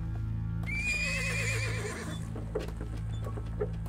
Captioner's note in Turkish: At kişneme sesi